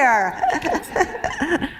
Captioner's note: laughter